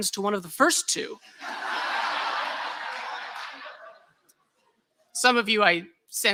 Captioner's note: laughter